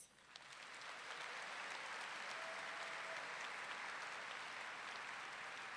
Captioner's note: audience clapping and cheering